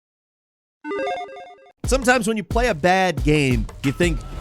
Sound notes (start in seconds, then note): 0.9 video game chimes